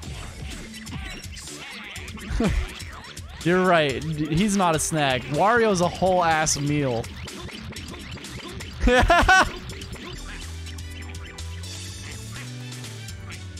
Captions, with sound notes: *tiny heh* You're right. D- he's not a snack. Wario's a whole ass meal *Laugh*